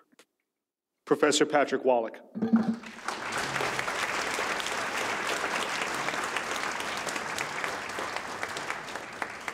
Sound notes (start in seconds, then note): 2.7 audience applauds